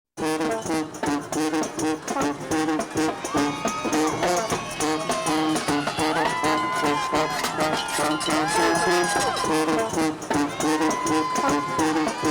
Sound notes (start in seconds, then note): 4.3 crowds cheer